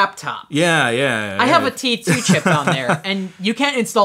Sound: laughs

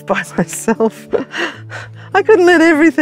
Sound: chuckles

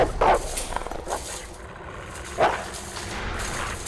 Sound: dog barking

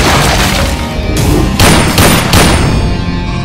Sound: gunshot

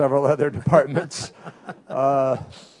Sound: laughter

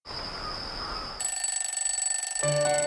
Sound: alarm Clock

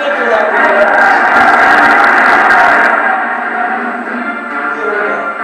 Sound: crowd roaring; ominous music

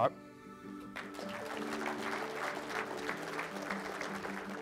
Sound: applause

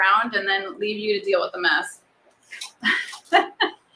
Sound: laughs

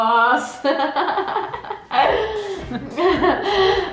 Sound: laughing

